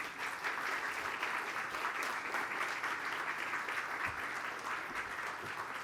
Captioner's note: applause